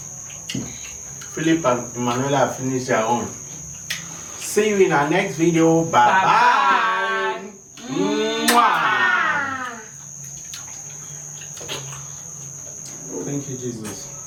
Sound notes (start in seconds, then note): 8.4 kisses